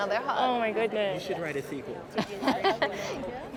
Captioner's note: laughs